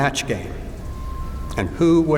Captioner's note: phone ring